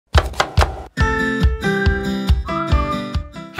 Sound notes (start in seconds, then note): 0.1 chopping; 0.9 bright music